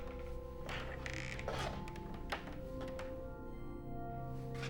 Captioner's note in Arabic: صرير